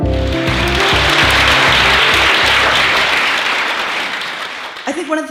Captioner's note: applause